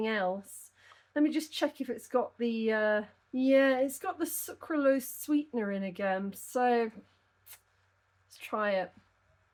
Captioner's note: tsk